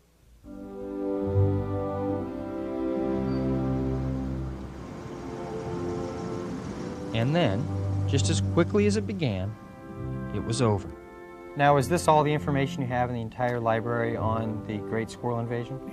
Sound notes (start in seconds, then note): 0.8 bright music; 4.5 cars humming